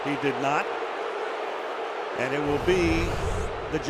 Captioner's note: booing